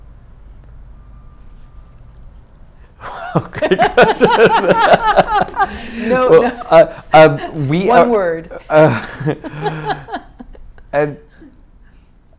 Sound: laughing

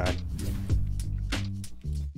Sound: air whooshing

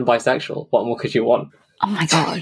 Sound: laughs

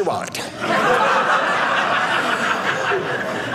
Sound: audience laughing

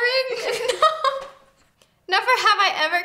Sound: laughs

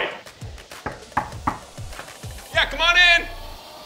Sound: knocking on door

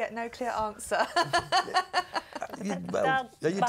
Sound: laugh

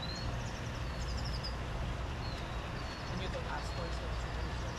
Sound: birds chirping

